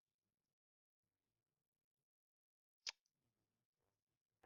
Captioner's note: silence